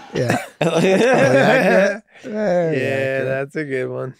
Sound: everyone laughs

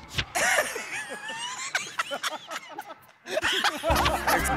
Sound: laughter

